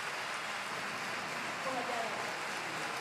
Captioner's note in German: Anhaltender Applaus und Jubel